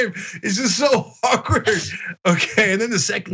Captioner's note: laugh